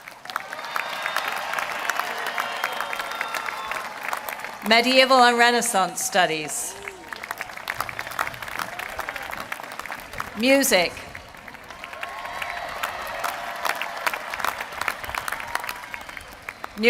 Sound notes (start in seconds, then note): 0.2 applause; 9.2 applause; 11.8 applause